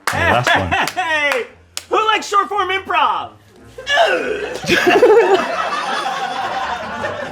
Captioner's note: Shayne grunting; laughter